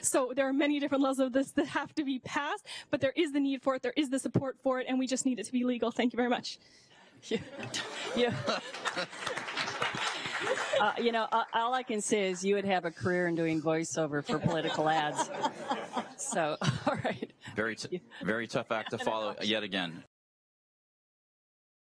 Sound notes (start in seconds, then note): 6.7 applause